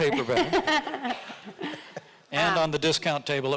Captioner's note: laughs